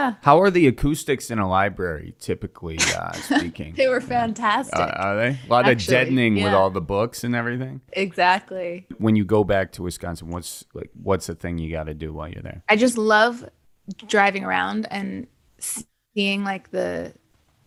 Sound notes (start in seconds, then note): 2.7 laughing